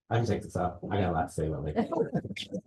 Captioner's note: laughter